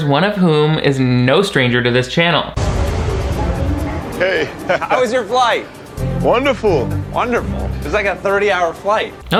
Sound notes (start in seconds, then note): 2.6 traffic humming; 5.6 upbeat instrumental music